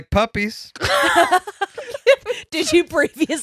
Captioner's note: laughing